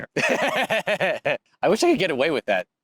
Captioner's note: laughs